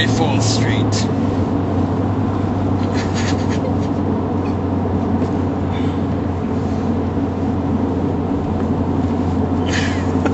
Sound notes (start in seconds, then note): 6.7 laughs